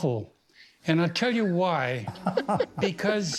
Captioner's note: chuckles; George and Rita laugh